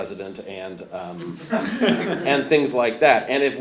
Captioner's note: audience laughs